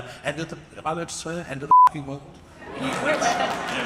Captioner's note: beep; audience applauds and cheers